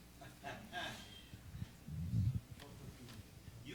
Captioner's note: audience laughing